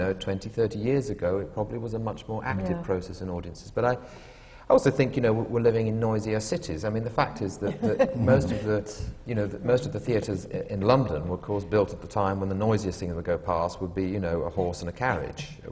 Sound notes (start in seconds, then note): 7.6 laughter